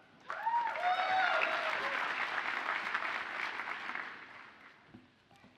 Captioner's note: audience cheers and applauds